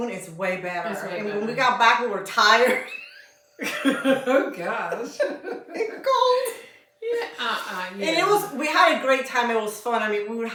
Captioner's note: laughter